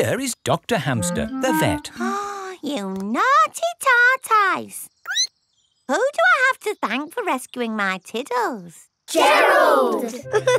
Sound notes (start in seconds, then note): 1.8 gasps; 4.8 squeaks